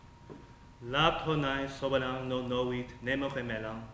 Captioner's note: speaking latin